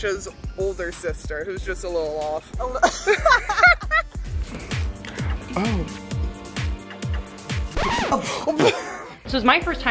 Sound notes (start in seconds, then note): 2.7 both laugh; 7.6 record scratch; 7.9 both laugh